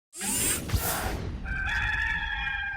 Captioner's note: robotic laser; rooster crows